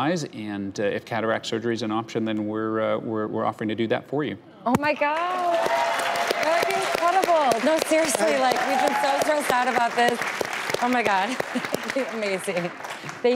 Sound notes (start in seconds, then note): 5.4 audience clapping